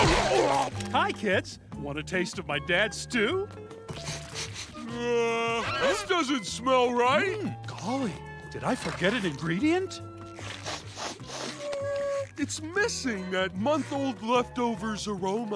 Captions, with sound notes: Hi, kids. Want a taste of my dad stew? [sniffing] Uh... This doesn't smell right. Golly, did I forget an ingredient? [sniffing] It's missing that month-old leftovers aroma.